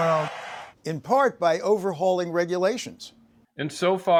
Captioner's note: cheering